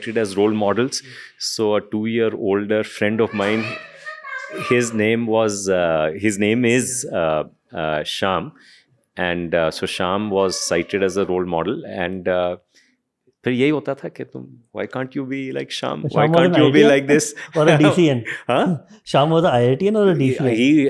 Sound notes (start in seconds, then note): 13.6 speaks in Hindi